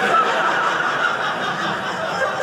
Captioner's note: audience laughing